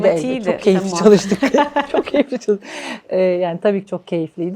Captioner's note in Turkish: kahkaha